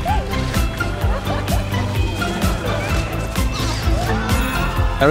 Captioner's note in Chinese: 笑聲